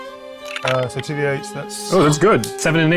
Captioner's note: dice rattling